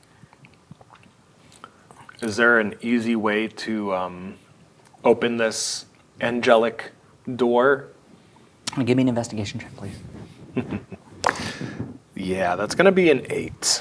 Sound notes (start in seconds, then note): 10.2 chuckles; 11.2 dice rolling